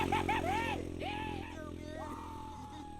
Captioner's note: cheering